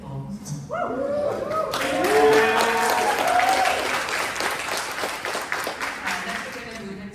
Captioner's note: applause